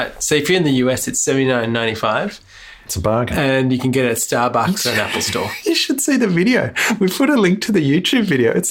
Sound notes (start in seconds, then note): 4.6 laughs